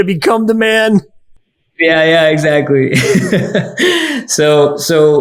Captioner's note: laughing